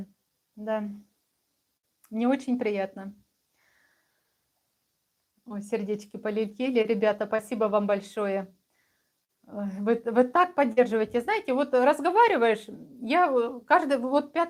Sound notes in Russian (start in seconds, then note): none